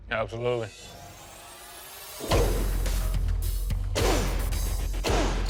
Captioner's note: blade impact sounds